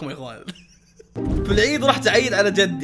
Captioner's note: chuckles